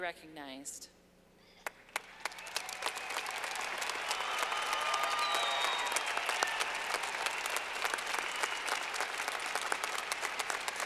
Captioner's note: clapping